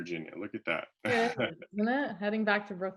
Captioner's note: laughs